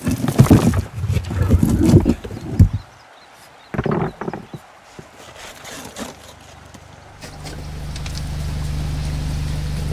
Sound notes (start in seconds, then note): 1.0 thud; 4.8 digging noises